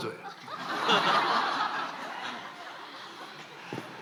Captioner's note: laughs